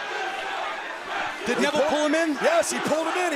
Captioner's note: crowd cheering